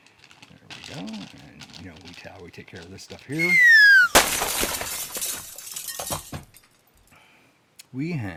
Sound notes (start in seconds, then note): 3.4 glass shatters